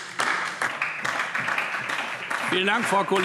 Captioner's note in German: Beifall DIE LINKE und vereinzelt SPD